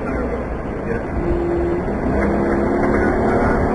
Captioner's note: radio chatter